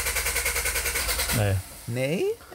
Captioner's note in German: Motor rattert